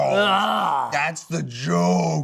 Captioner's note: groans